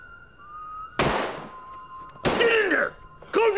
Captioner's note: gunshots firing